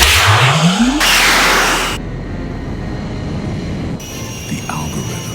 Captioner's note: weapons buzzing; dramatic music